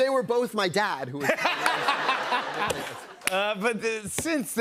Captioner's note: laughter